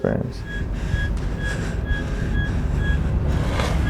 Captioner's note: beeping